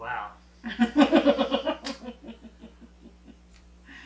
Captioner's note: laughing